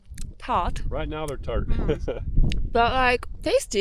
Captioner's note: lips smacking; laughs